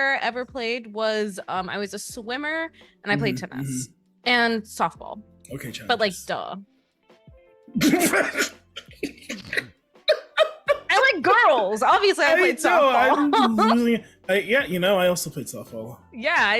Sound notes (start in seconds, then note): 12.3 laughing